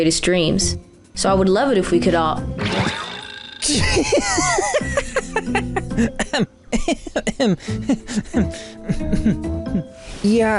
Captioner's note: laughs